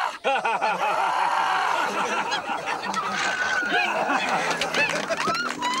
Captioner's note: applause